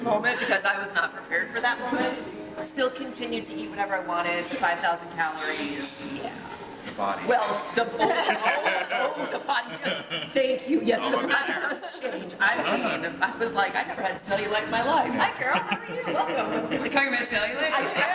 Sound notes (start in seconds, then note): 7.9 laughter